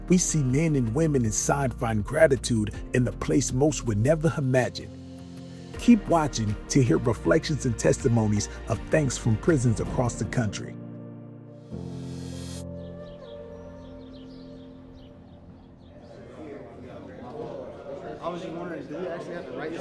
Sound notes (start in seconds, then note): 12.3 dramatic music; 12.7 birds chirping